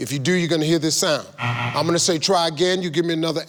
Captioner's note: computer buzzes